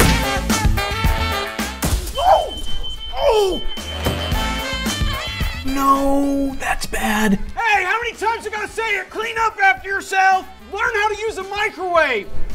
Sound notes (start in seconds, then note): 1.7 bang; 3.7 beeping; 7.0 yelling